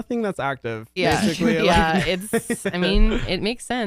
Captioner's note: laughs